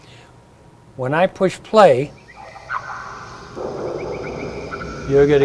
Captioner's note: animal sounds